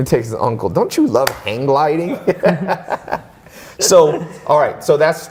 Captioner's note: laughs